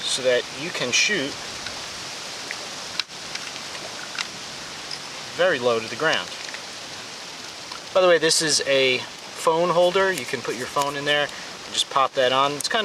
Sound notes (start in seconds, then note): 1.2 wind whirring; 2.6 metal clicking